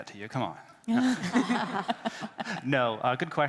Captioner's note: everybody laughing